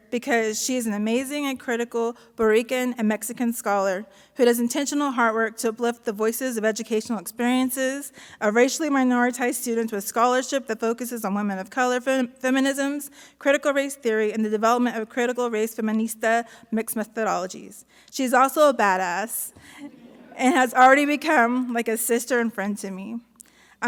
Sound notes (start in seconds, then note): 19.8 audience laughs